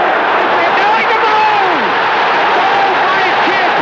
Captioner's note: crowd roaring